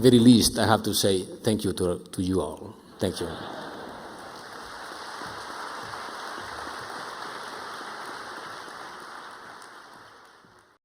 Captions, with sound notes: - At the very least, I have to say thank you to you all. Thank you. (audience applauding)